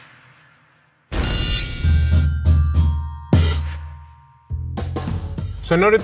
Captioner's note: sword unsheathing; chill groove music